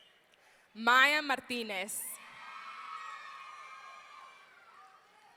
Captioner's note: audience cheering